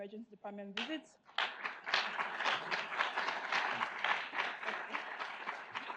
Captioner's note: audience applauds